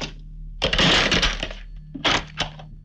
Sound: receiver hang up

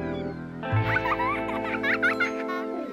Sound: child laughing

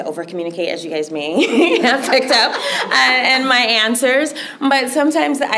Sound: laughter

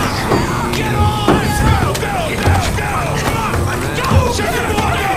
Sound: people anxiously yelling

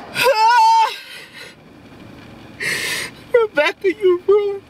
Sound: screams

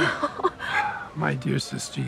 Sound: marmee chuckles

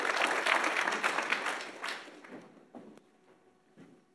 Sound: audience applauds

